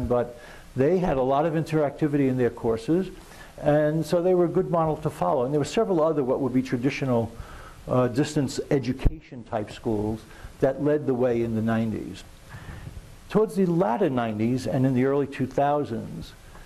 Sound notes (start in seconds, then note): none